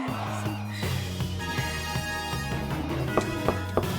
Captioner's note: demon whispering